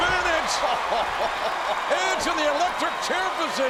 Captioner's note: audience cheering